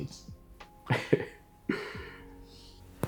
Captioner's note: laughs